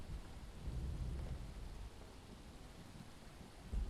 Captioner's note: thunder rolling